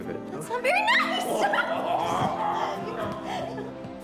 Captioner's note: laughing